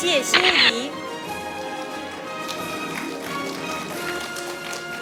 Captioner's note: audience applauding